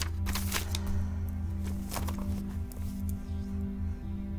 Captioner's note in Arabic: حفيف الورق